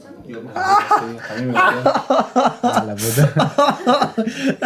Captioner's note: groans in pain